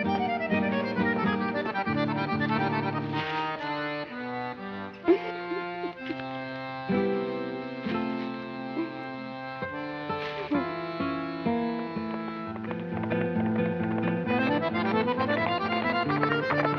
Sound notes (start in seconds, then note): 4.9 sobbing; 12.5 fast-paced music